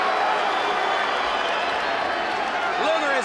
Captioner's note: crowd chatter